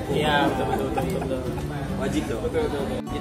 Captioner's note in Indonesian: laugh